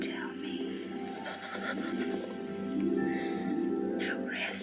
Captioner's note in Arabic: السيدة هالوران تلهث